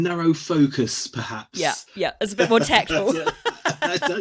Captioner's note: laughs